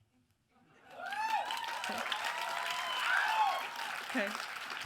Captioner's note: audience applauds and cheers